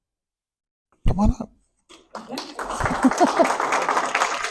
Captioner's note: applause, laughter